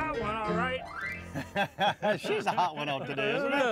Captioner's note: laughs; laughing